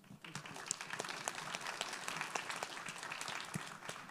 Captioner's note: audience applauds